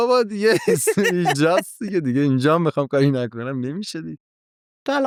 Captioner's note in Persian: خنده